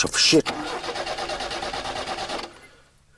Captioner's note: engine faltering